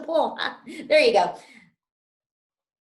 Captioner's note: laughs